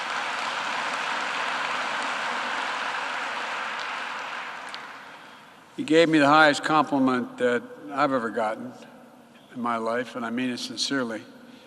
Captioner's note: applause